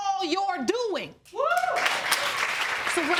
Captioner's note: audience cheering